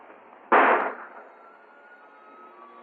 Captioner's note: gunshot